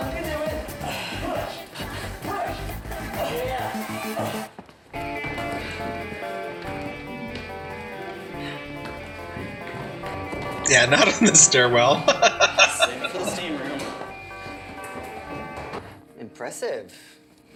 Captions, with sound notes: Yeah, not in the stairwell. [Laughing]